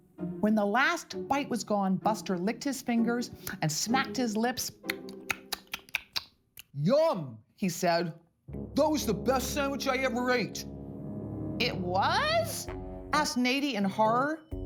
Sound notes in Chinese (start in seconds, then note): 4.8 咂嘴聲